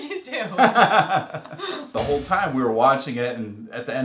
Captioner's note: laugh